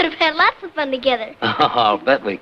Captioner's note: laughs